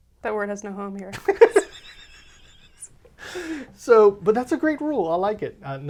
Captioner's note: laughs